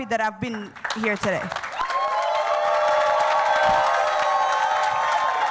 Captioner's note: audience cheers and claps